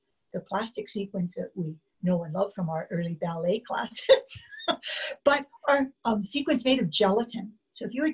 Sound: laughs

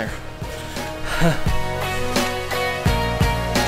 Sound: chuckles; synthesized music

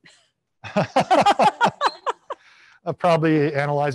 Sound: panelists laughing

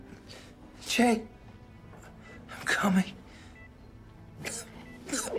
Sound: coughs

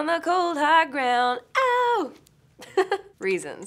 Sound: laughs

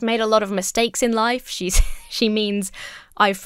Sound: laughs

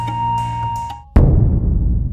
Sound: serene music; gong

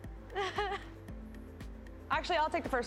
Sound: chuckles

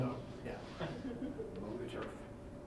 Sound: chuckling

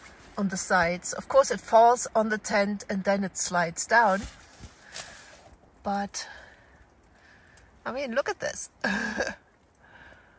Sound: laughs

